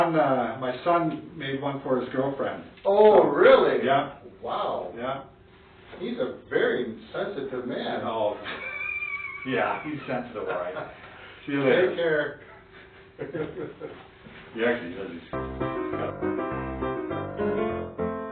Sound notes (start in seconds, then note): 8.4 laughing; 12.4 both laughing; 15.3 playful music